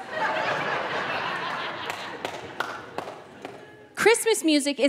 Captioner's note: audience member clapping